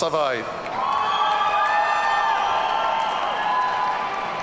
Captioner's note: audience cheering